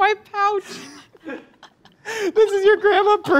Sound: laugh

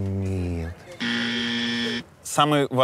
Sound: buzzer sound

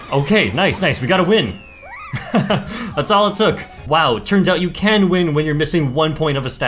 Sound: laughs

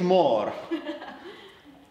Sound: laughter

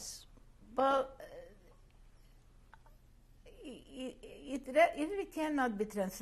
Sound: pauses for 3 seconds

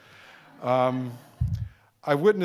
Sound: audience laughing

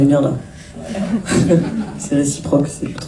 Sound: laughs

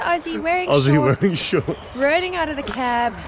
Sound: laughs

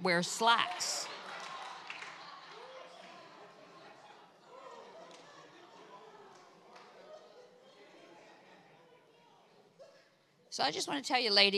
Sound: congregation cheers

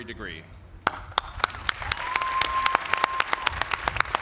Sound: applause

